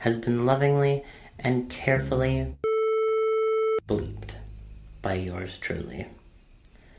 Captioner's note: beep